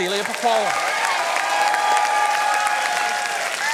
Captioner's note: cheering and applause